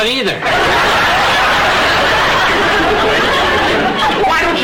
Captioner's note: audience laughter